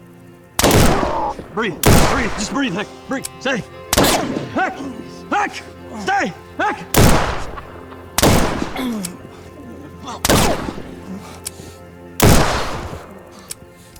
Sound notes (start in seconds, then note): 8.6 clears throat